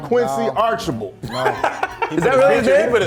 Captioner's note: he laughs